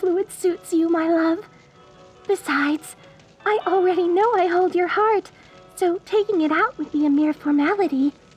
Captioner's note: none